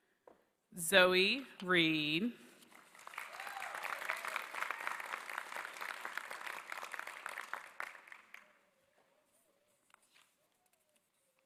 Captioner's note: applause